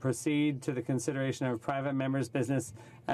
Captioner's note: speaking in French